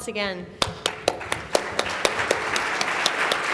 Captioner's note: applauding